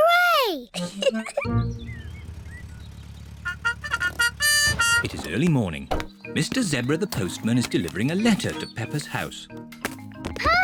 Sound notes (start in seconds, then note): 0.7 giggles; 3.4 car horn